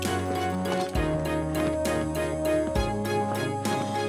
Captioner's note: flapping